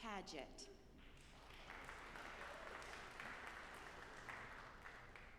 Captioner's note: audience applauding